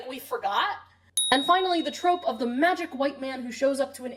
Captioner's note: ding